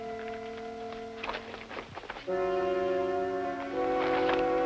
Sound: paper rustles

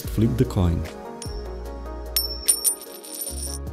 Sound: flips coin

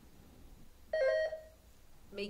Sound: buzzer sounding

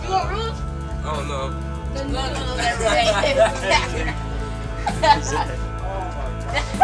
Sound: guys laughing

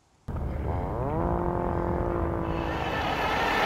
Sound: motor buzzing

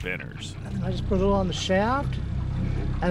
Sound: boat engine idling

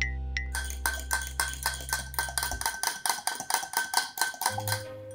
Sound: fork clinking

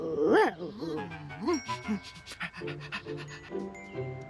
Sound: panting

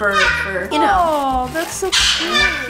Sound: bird squawking loudly

